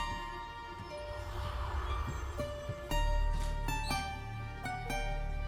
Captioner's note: ominous whispers